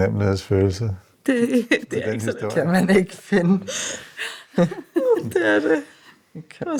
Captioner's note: laughs